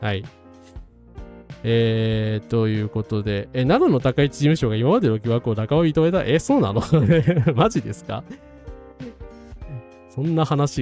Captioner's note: laughs